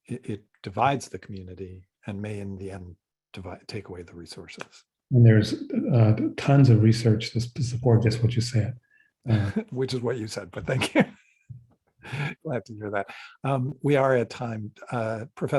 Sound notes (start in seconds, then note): 9.2 chuckles; 10.6 laughs